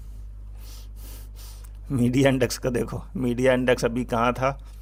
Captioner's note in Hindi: नाक से की जाने वाली आवाज़